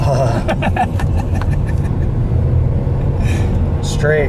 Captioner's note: laughs